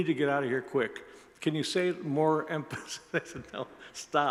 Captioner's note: laughs